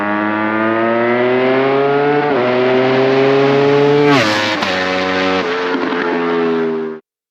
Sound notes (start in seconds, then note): 0.0 engine revving